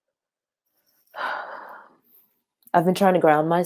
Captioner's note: sighing